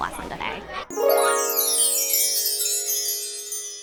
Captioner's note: chime Sound